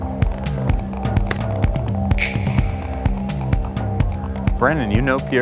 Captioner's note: fingers clicking